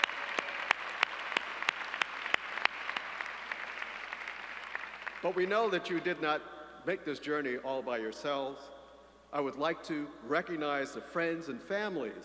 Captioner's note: applause